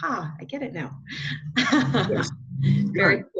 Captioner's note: chuckle